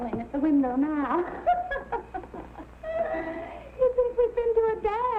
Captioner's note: laughing